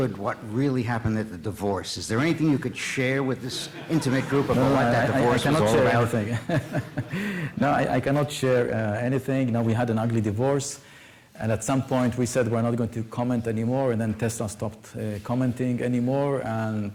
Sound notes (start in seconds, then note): 5.5 laughter